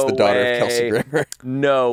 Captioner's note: laughs